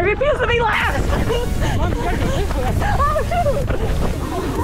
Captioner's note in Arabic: ضحك لاهث